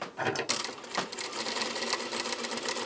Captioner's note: rattling